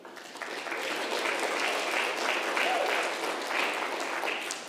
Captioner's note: congregation applauding